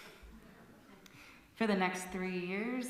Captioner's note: laughter